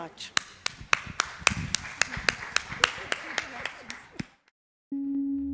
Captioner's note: audience applauds